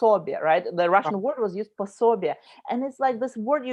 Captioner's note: speaking in foreign language